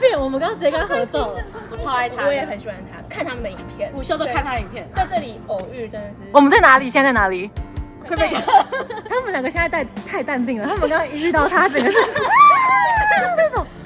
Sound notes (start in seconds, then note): 12.2 尖叫